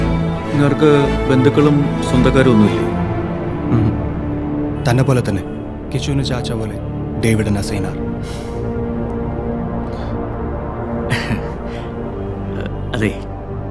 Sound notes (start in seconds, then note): 11.1 snickers